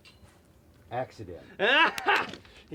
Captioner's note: Del loudly guffaws